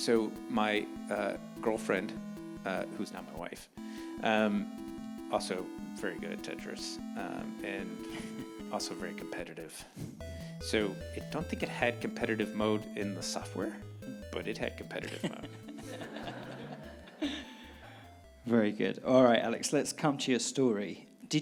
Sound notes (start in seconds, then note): 15.0 audience laughing